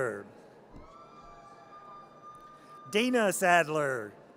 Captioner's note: audience cheers